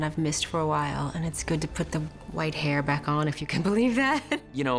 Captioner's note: laughs